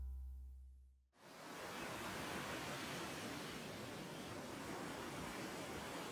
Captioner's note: wind rushing in trees